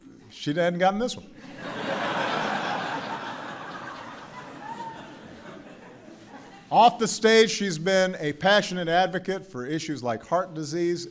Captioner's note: laughter